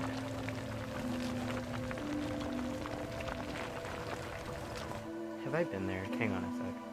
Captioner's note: gravel sounds